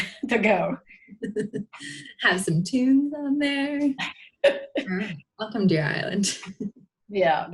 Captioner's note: laughs